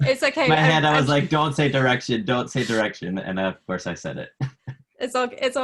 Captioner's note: laughs